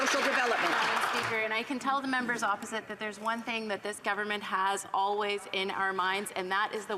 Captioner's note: some Applause